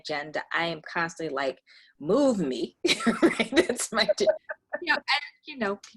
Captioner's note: laughs